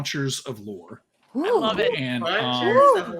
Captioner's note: all cheer